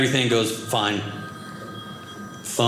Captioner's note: phone ringing